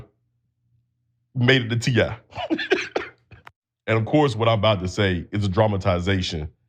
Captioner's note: laugh